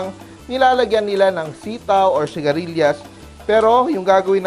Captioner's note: sizzle